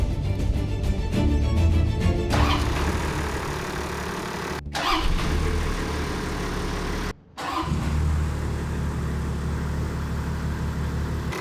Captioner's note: engine noise